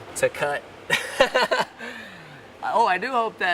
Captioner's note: laughs